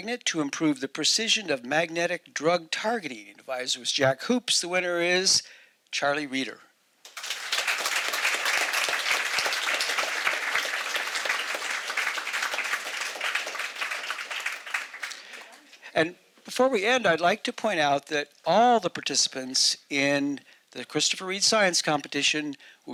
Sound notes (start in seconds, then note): 7.0 audience applauding